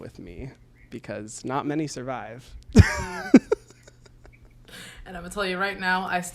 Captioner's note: both laugh